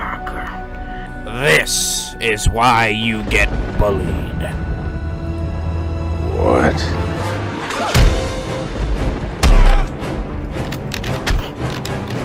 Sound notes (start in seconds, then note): 7.9 lunging sound; 9.3 bone-crunching punch